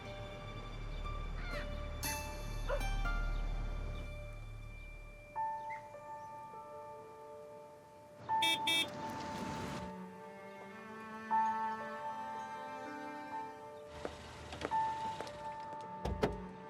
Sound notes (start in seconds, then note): 2.6 dog barking; 8.4 horn beeping; 8.6 hopeful music